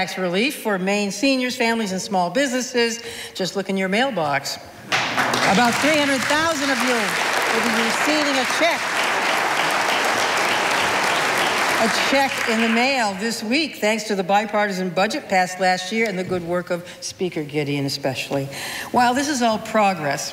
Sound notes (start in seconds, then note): 7.1 audience applauding